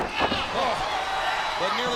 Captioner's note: crowd cheering